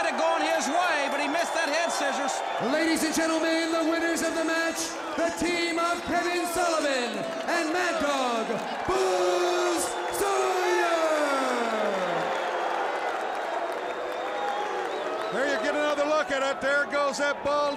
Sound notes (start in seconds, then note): 11.3 crowd cheering